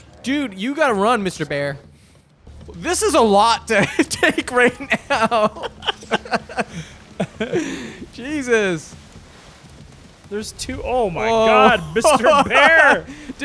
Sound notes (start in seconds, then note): 5.6 both laughing